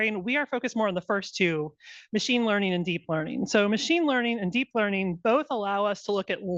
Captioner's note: none